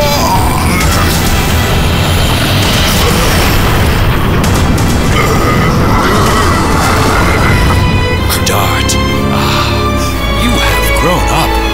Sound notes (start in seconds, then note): 5.1 Melbu groaning in pain